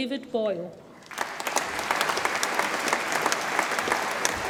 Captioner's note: audience applauds